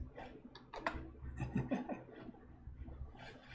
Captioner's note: chuckles